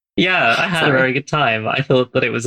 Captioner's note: laughs